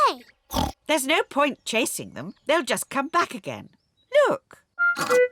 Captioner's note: oinks